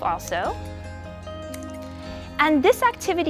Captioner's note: scissors snip